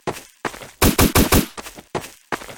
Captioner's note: shots